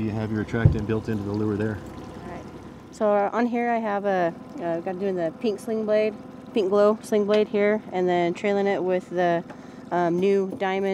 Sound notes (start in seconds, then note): 2.9 boat engine idling